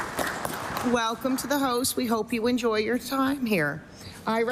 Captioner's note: applause